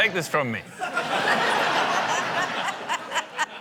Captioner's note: laughter